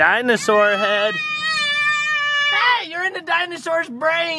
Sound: screams

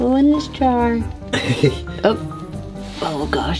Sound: chuckles

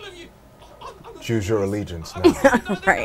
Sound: laughs

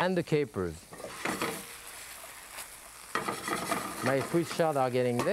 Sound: pan scraping

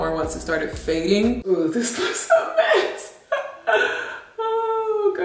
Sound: laughs

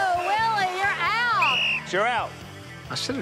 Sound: whistle blows

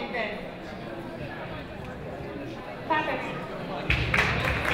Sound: audience clapping

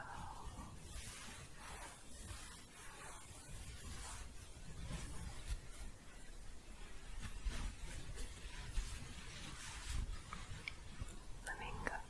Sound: continuous shuffling

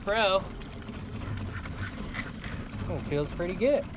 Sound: reel cranking

